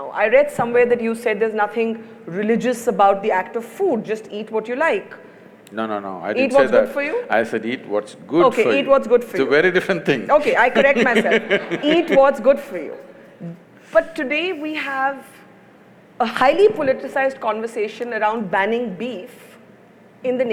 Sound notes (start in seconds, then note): 10.4 laughs; 10.5 Sadhguru laughs